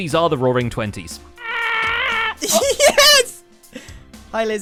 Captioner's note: rapidly approaching screaming; triumphant giggle